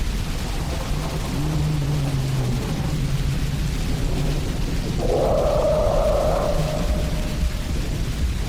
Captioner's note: large creatures groaning and roaring